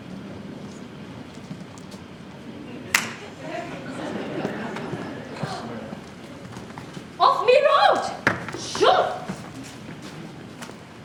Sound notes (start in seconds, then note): 2.6 audience laughs; 2.9 slaps hand